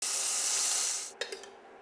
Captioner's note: sizzling sound